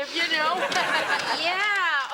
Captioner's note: audience laughing; Ethan laughs